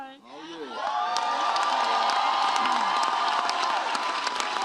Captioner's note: audience cheers